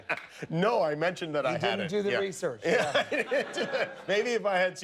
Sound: laughter

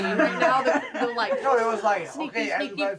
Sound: all chuckling

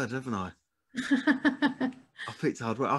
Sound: laughs

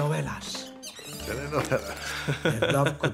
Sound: squeaks

